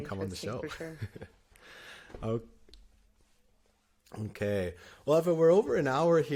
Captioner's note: laughter